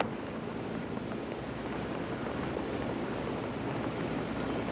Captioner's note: helicopters whir